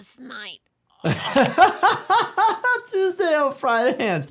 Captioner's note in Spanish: risas